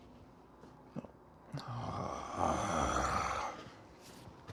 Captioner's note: groans